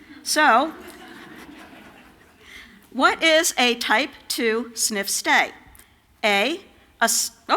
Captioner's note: laughter